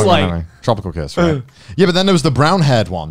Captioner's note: murmurs